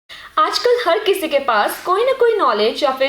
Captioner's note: in Hindi